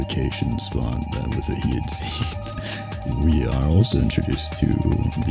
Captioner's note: laughs